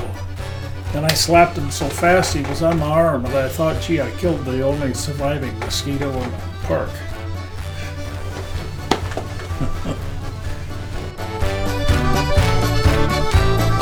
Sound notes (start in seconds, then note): 7.5 chuckling; 10.6 polka music